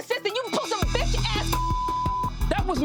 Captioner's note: beep